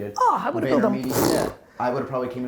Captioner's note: blows tongue